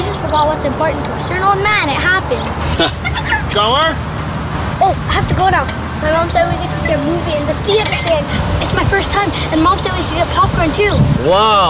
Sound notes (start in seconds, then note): 2.7 chuckles; 3.9 off-screen holler